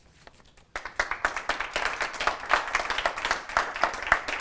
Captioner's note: applause